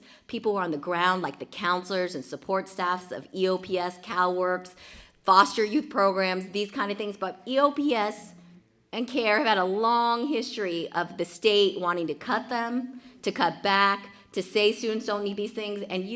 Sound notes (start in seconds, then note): none